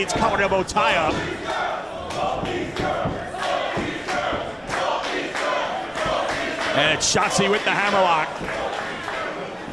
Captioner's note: applause